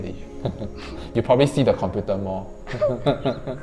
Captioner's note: laughing